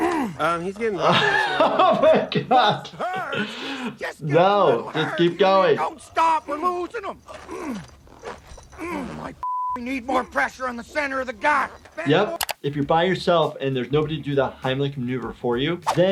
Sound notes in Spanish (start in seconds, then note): 0.9 se ríe; 7.9 gemidos